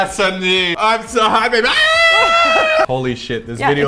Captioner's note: scream